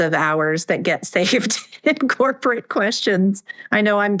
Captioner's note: laughs